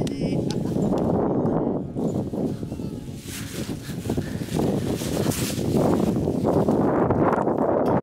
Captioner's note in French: souffle du vent